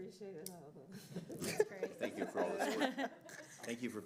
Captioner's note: laughter